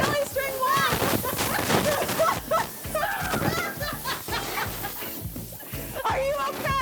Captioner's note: laughs